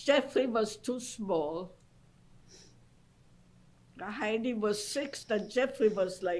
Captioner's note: pauses for 3 seconds